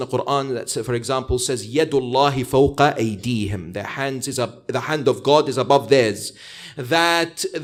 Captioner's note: arabic - 48:10